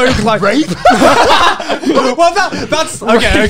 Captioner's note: all laugh